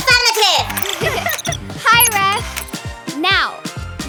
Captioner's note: chuckling